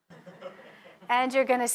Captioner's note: audience laughs